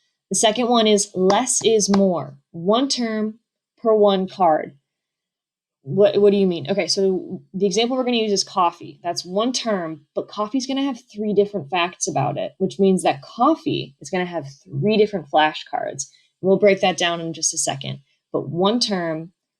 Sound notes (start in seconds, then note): 1.2 clap; 5.8 stammers